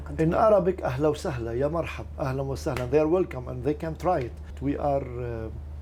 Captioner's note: speaking in foreign language